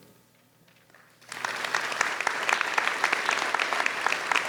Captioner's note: audience applauds